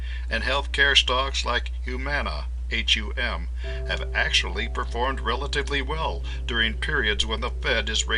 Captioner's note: hum